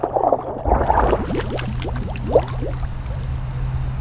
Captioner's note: water bubbling